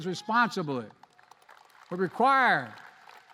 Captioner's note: applause